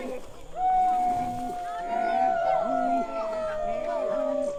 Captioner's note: people chanting